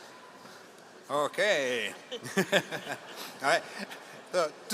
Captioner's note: laughs